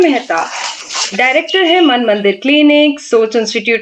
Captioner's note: nasal sound